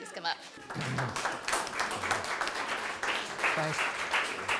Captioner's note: applause